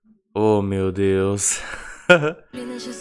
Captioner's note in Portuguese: risos